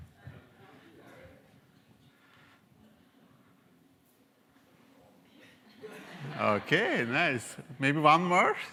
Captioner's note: laugh